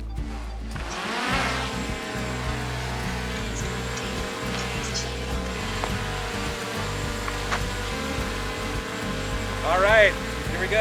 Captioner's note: drone buzzing